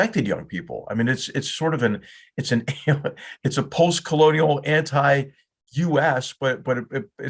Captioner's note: laugh